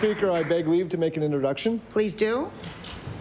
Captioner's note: applause